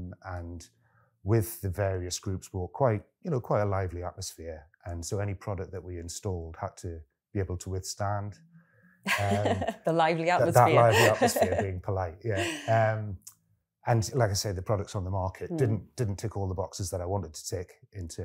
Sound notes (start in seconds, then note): 10.4 laughs